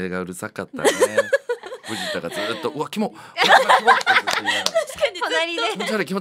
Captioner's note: laughs